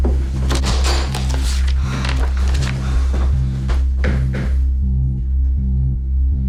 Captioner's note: door creaks; Jack gasps